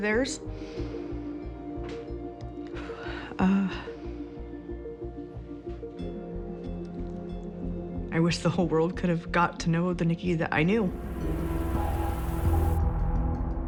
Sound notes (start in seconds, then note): 2.7 exhales; 12.7 dramatic music playing